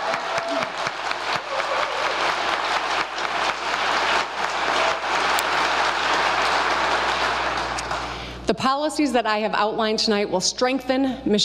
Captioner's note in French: applause